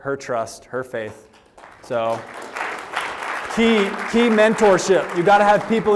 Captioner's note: applause